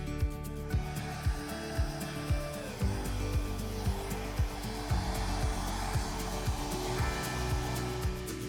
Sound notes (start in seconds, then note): 0.6 blower whooshing